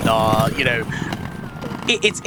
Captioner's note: skates Rolling